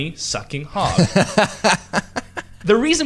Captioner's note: laughs